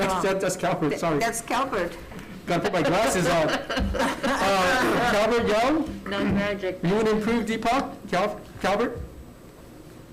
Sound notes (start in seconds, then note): 2.4 laughing